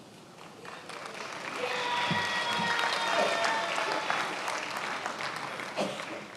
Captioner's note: attendees applauding and cheering